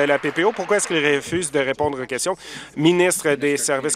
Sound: applause

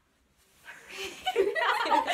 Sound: girls laughing

